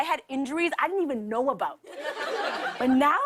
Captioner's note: laughter